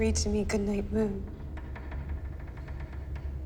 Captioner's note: wood creaks